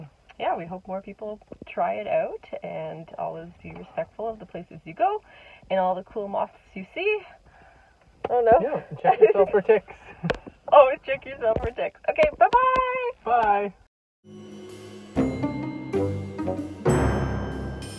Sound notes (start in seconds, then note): 10.9 laughing; 14.2 playful music